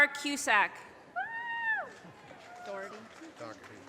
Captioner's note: audience cheers and applause